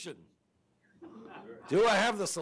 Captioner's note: audience laughs